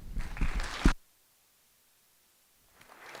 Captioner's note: applause